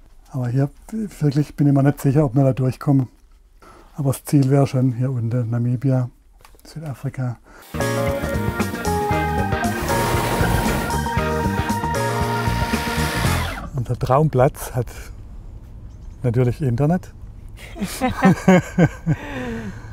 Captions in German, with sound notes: Hier bin ich mir nicht sicher, ob wir durchkommen. Aber das Ziel wäre schon hier unten, Namibia, Südafrika. (Lockere Musik) Unser Traumplatz hat ... natürlich Internet. (Sie lachen.)